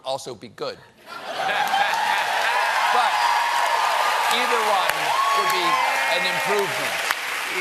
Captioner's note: cheers; laughter